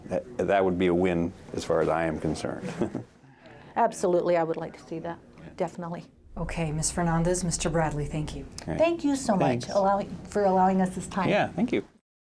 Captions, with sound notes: That would be a win as far as I am concerned. (chuckles) - Absolutely I would like to see that. Definitely. - Okay Ms. Fernandez, Mr. Bradley, thank you. - Thank you so much. - Thanks. - For allowing us this time. - Yeah, thank you.